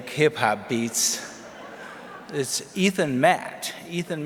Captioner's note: audience laughs